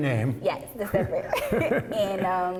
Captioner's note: laughter